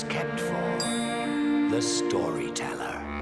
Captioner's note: clinking